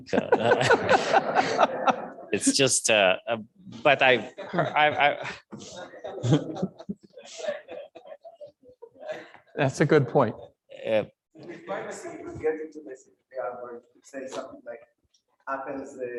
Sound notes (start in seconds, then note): 6.6 audience laughs